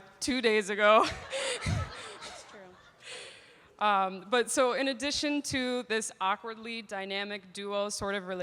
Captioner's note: laughs